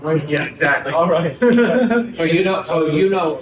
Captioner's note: people laugh